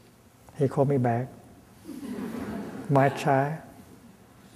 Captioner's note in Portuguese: Thay movendo as mãos, a audiência a rir